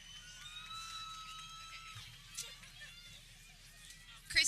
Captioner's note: people cheering